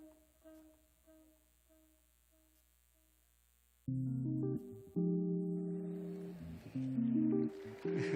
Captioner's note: cheers and applause